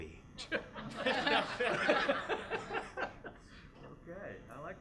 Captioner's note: laughter